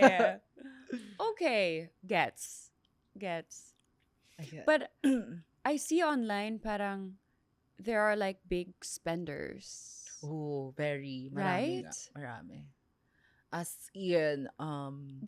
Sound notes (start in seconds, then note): 0.0 laughs; 5.0 clears throat